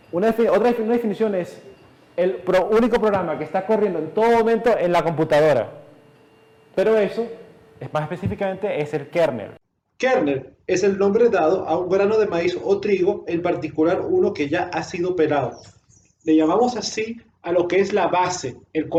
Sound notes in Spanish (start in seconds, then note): 15.2 canto de pájaro